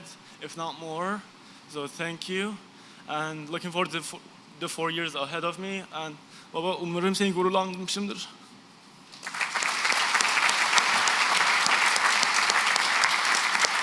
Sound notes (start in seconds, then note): 6.2 non-english; 10.7 applause